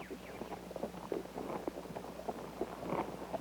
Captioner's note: horse hooves